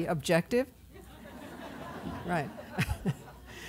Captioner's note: laughter